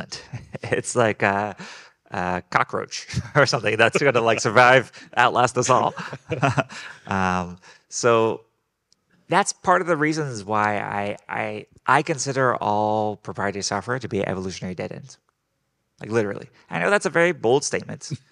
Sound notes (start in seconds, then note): 0.1 laughing; 6.0 group laughing